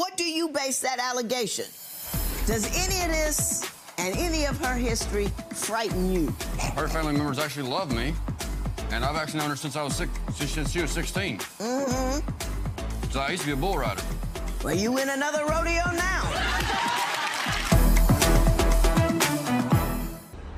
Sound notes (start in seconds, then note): 16.2 audience laughing; 18.0 serious music